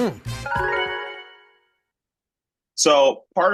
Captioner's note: graphic chimes